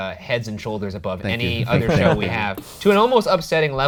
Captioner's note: laughs